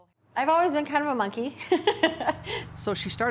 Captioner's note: laughs